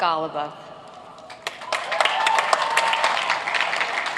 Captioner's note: applauding